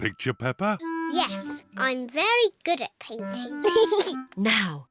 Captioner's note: giggles